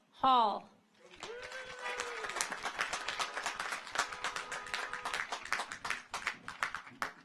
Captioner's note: audience applauds; car horns honking